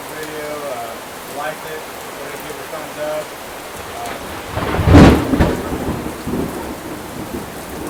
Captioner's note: loud thunder